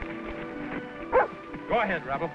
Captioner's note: Rebel barking